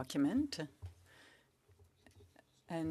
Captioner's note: speaking French